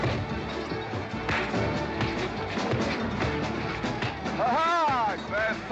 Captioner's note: western fight music; sounds of scuffling & fighting